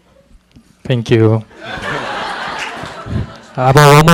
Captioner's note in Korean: 청중 웃음